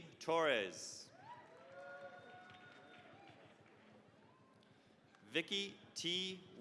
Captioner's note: cheering, applause